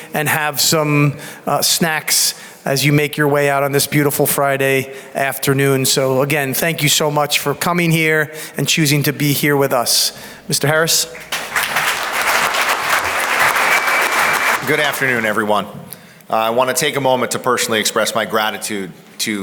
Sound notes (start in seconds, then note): 11.0 audience applauds